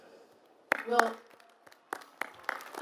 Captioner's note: applause